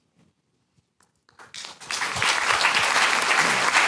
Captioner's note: applause